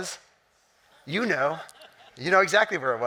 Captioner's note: audience chuckling